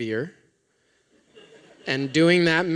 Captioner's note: laughter